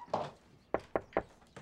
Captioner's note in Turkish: Kapı